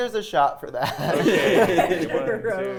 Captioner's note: players laughing